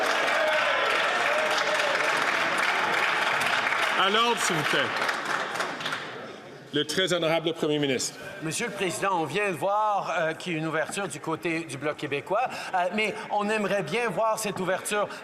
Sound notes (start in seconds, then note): 3.6 some Applause